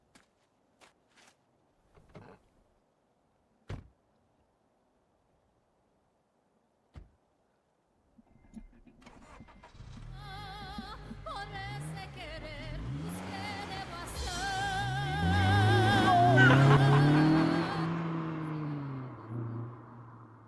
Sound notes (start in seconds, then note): 11.2 car engine starts; 14.0 mariachi music playing; 17.2 men laughing